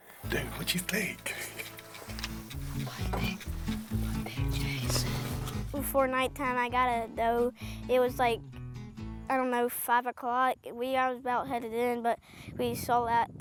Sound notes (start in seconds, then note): 1.6 upbeat music plays; 5.1 whispers